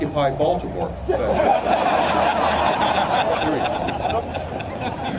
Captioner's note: audience laughter